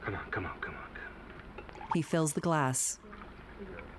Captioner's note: scotch glugging